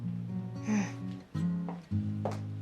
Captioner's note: slGHS